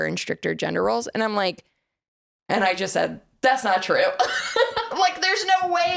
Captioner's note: laughs